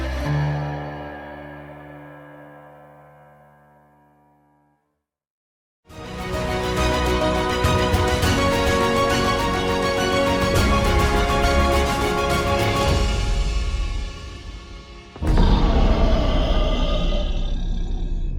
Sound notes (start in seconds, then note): 3.0 music fades; 4.7 silence; 5.9 upbeat music; 14.7 music fades; 15.2 growling